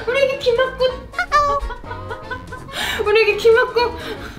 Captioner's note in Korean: 웃음; 웃음